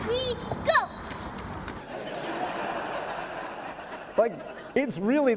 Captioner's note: laughter